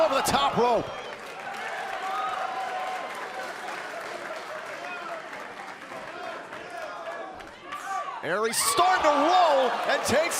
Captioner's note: crowd cheering